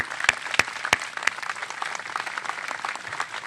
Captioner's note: applause